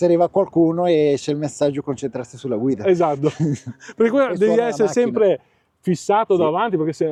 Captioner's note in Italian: risate